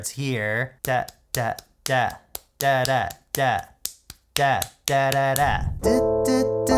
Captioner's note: vocalizes rhythmic beats; synth chords with wordless vocals